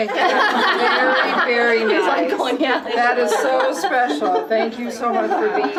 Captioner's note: laughter